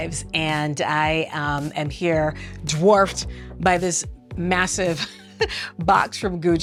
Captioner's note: laughing